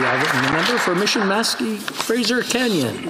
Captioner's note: applause